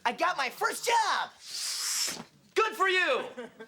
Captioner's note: whooshes